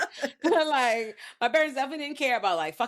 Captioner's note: laughing